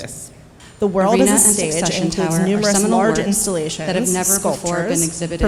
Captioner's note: indistinct chatters